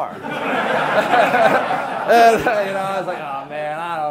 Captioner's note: class laughing